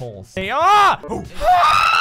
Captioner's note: viking noises; brave scream